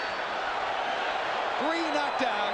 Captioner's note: bell rings